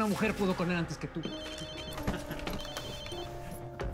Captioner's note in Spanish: suena el celular; risas